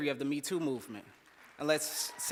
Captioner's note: cheers